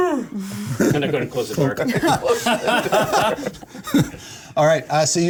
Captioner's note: yawn